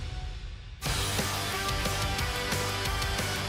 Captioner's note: crowd cheering